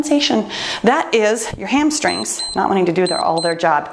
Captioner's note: timer beeps